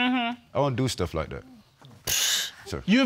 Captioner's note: exhales